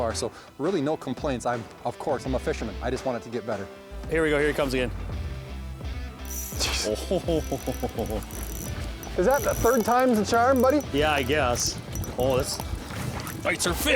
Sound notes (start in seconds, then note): 6.2 fishing reel spinning; 9.4 voiceover